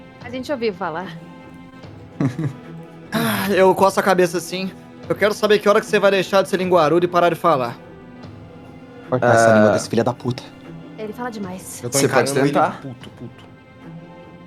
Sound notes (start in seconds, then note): 1.9 laughs